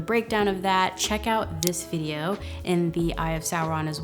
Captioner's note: mouse clicking